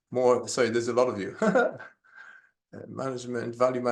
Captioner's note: laughs